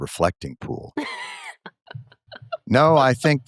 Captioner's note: laughter